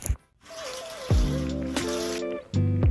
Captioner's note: blinds open; chill music